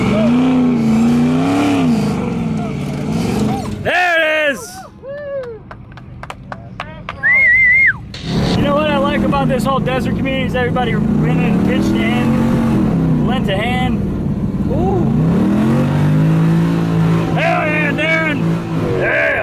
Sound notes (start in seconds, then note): 0.0 engine revving; 5.6 whistling; 14.7 engine revving